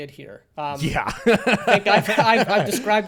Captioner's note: laughs